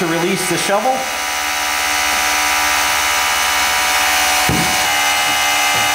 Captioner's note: mechanical whirring